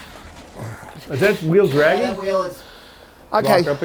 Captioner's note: overlapping chattering